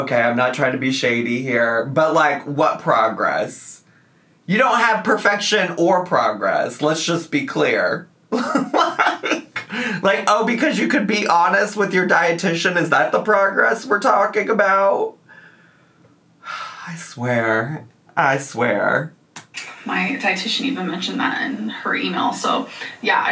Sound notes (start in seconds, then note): 8.3 laughs; 16.4 sighs